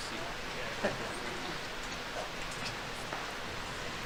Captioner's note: people chattering